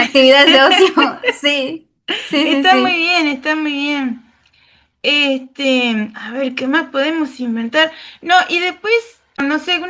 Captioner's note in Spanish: risas